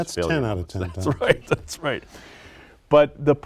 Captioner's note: laughter